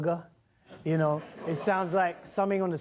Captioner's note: laughter